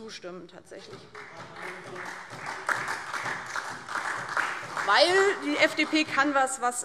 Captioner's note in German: Beifall DIE LINKE, SPD und Freie Demokraten